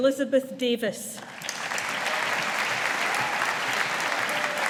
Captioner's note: audience applauding